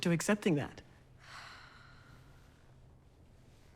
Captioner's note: Wendy sighs